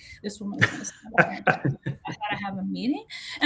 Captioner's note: mumbling